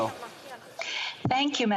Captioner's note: some Applause